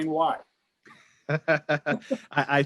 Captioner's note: laughs